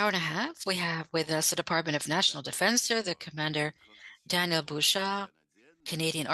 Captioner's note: speaking French